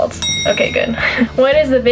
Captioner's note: bell ring